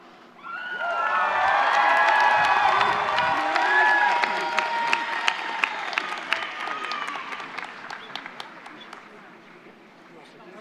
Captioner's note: applause